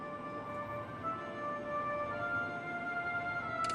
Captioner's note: electronic machine whirring